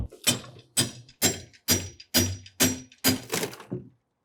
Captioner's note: banging sound